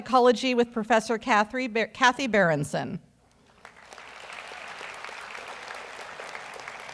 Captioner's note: audience applauds